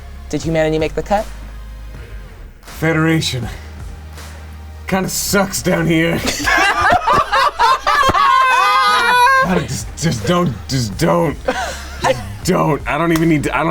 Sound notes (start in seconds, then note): 6.0 everyone laughing loudly